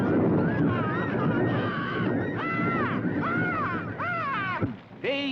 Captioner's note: birds squawking